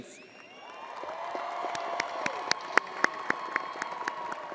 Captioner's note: crowd applauding